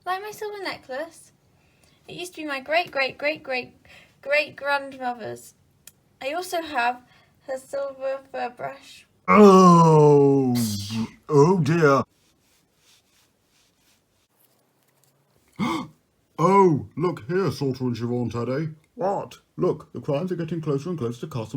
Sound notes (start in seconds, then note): 10.7 tea splash; 15.5 gasp